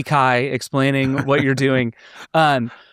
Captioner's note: laughing